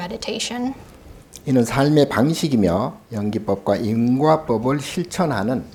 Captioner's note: speaking Korean